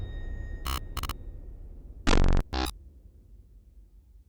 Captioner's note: static zapping